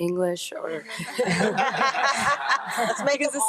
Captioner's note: everyone laughing